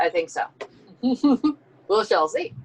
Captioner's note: laughing